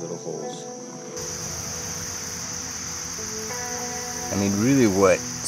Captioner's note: insect noises